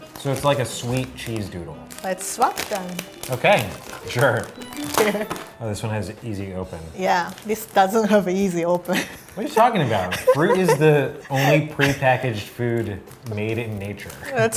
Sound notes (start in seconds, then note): 4.3 jingle; 9.0 laughing